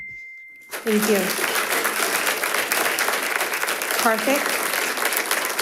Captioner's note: audience applauding